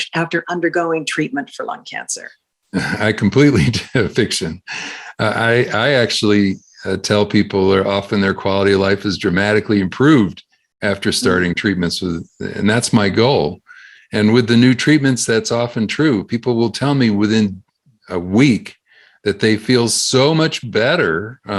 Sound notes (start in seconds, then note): 2.7 laughs